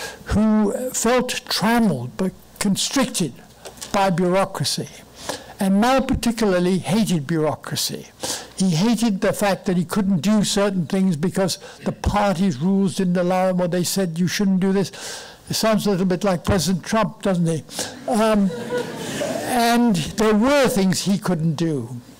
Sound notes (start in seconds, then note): 17.9 laughing